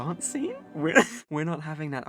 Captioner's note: laughs